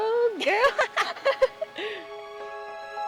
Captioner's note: both chuckle; light soaring music